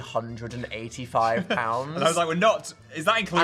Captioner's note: Phil laughs